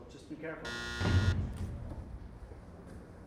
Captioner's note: buzzer